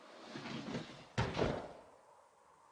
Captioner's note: thump